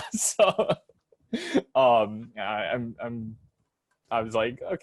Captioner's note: laughs